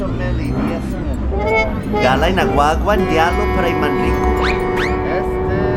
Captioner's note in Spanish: hablando chamorro